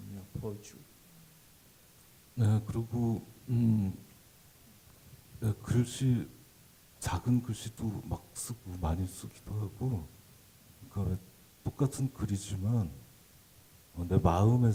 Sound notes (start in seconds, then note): 1.7 speaking Korean